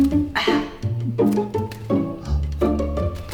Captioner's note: sighs